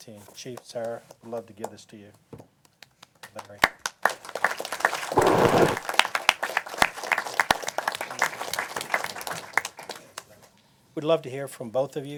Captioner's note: applause